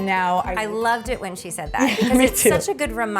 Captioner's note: laughs